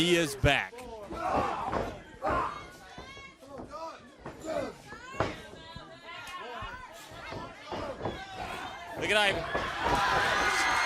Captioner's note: crowd chatter